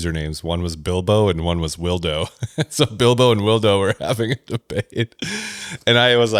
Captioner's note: laughs